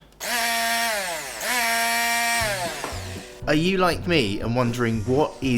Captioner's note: mixer noise